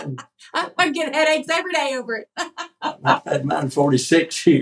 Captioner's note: laugh